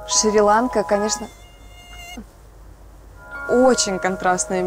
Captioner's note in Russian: писк комара